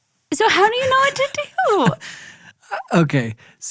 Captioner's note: laughs